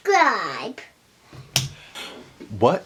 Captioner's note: clap